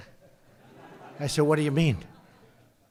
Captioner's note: laughter